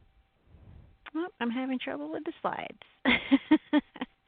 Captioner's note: laughs